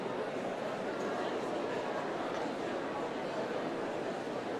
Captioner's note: none